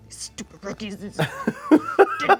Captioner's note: group laughs; groaning